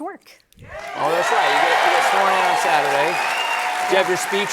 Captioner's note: cheers and applause